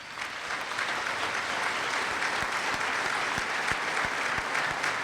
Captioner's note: applause